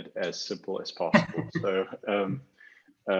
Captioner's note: laughing